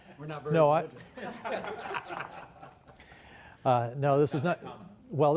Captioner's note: laughter